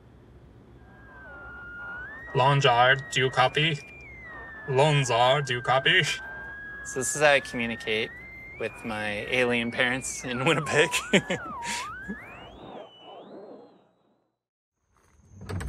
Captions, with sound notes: (radio transmission sounds) Longzard, do you copy? Longzard, do you copy? So, this is how I communicate with my alien parents in Winnipeg. (chuckles)